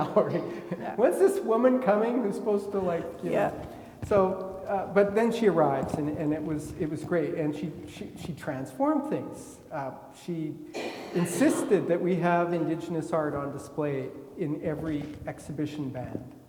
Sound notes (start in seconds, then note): 10.7 attendee coughing